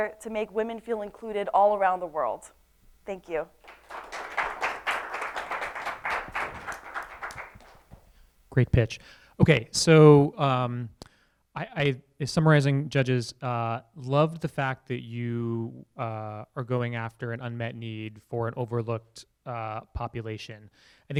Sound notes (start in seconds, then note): 3.6 applause